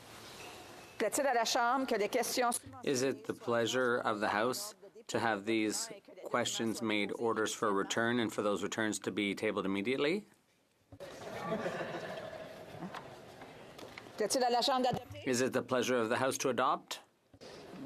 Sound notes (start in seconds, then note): 4.6 speaking French